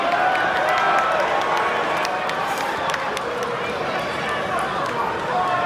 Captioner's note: small amount of crowd clapping